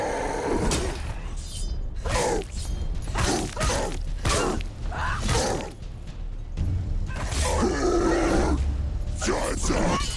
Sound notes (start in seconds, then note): none